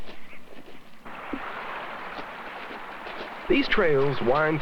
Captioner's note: sound of waterfall